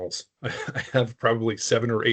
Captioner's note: chuckling